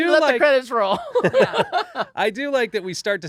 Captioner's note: laughing